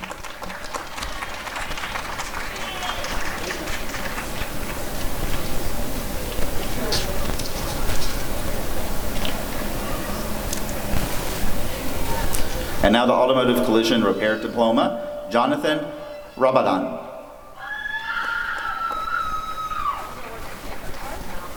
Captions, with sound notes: [applause and cheering] And now the Automotive Collision Repair Diploma— Jonathan Rabadan [applause and cheering]